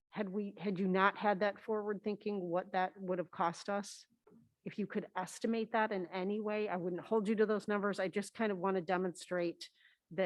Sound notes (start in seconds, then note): none